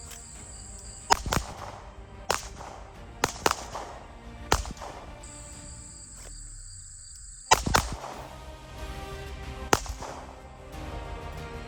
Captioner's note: gun shots